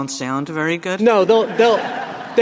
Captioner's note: laughter